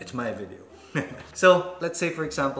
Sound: chuckles

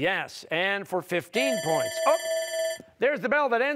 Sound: timer sounding

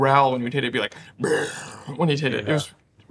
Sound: growling

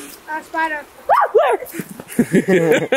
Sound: screams; laugh

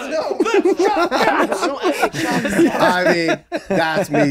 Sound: all laughing

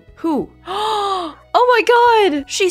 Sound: gasp

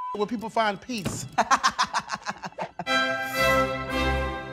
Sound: laughs

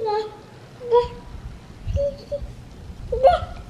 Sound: baby babbling

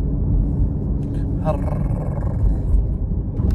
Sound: growls

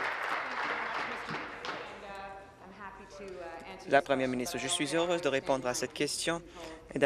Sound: applause

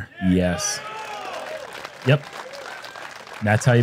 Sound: applause

